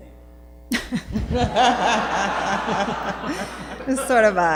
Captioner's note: laughter